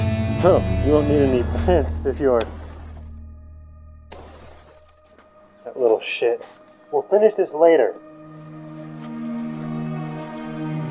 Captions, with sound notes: CLINT Oh, you won't need any plants if you're-- [A window shatters] [Another window shatters] CLINT That little shit... We'll finish this later!